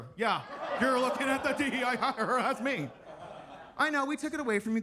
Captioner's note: attendees laughing